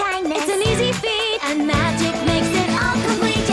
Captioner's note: none